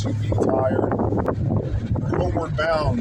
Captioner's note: wind buffeting